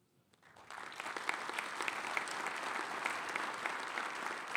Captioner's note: audience applauds